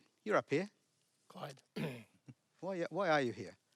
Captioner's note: clears throat